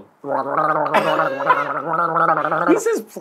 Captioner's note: gargling